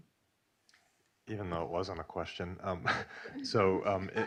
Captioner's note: chuckles; laughing